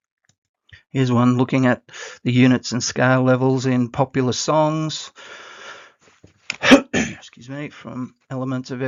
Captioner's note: coughs